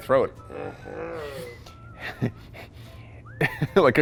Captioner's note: HaHAA cough